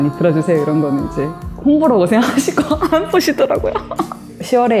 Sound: laugh

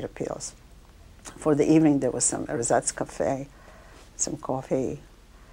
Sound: non-english speech

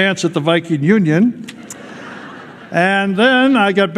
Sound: laughter

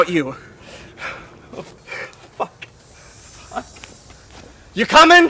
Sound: sobs

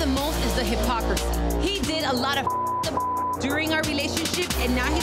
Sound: beep

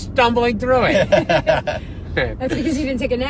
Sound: laughing

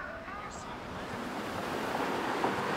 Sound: traffic

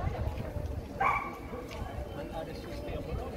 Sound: some dog barking in Norwegian

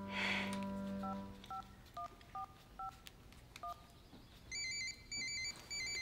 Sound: Susan sighs; phone beeping; phone ringing

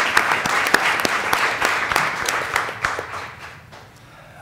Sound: applause

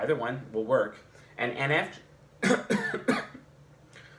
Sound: coughs

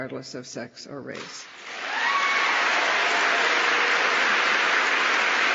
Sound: applause

